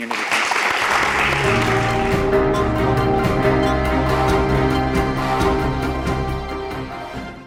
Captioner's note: applause